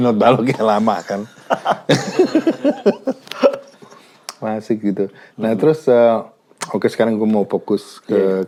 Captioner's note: laughs